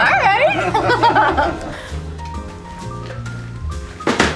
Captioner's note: laughing